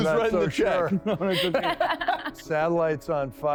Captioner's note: laughter